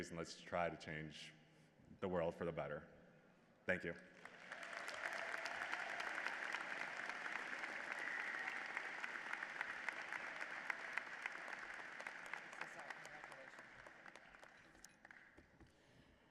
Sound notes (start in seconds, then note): 4.0 applause